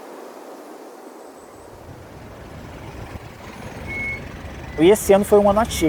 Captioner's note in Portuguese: som de motor